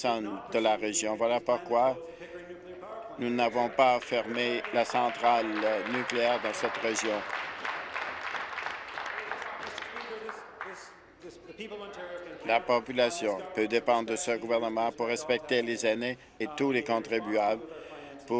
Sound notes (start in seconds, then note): 8.9 applause